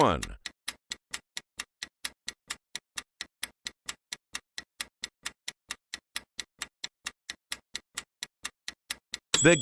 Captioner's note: sound of stopwatch ticking